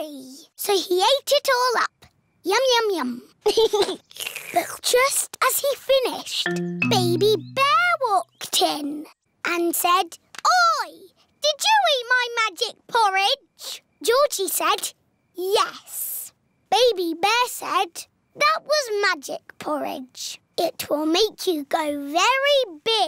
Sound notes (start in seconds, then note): 3.4 giggles; 4.0 slurps